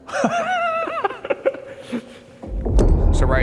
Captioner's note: both laugh